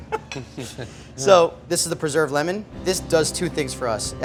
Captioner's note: laughs